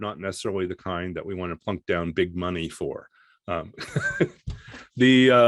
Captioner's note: laughs